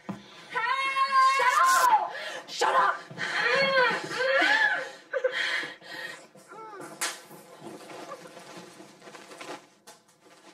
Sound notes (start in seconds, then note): 3.9 yelling; 6.4 muffled Sobbing